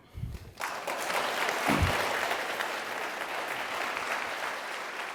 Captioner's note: audience applauding